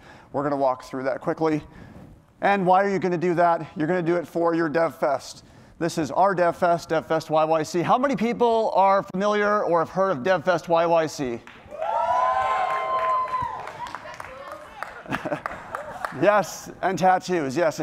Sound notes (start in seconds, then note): 11.6 cheering